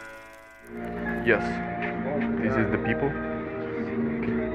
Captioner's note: in video, Russian accent